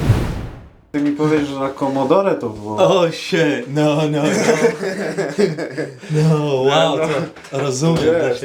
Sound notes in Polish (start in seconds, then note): 4.2 śmiech